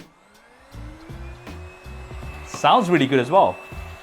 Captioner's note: vacuum cleaner starting